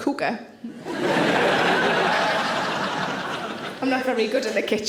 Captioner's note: audience laughing